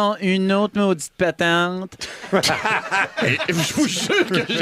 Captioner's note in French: rires